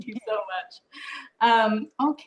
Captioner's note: none